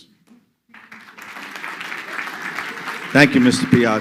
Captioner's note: crowd clapping